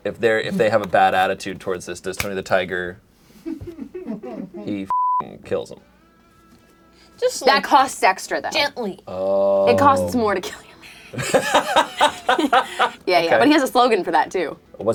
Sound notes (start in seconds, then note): 3.6 crew laughing; 9.6 laughs